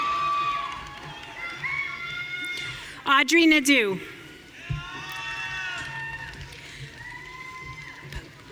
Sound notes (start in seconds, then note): 4.6 audience cheering